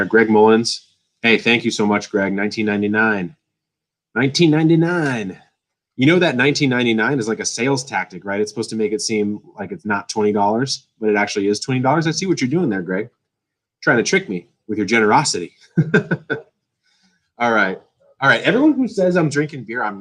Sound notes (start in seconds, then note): 15.7 laughs